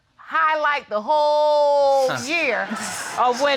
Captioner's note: audience laughing